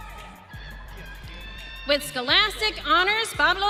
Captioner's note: audience cheering